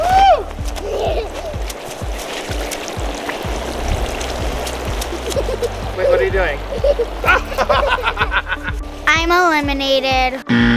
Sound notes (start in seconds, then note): 0.0 cheering; 1.0 laughter; 3.1 water rushing; 6.6 laughter; 10.5 buzzer ringing